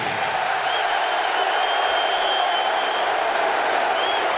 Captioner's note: crowd cheering